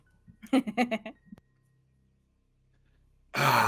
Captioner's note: Hope laughs